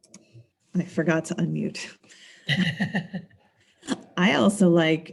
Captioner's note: laughs